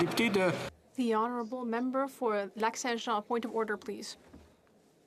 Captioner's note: speaking French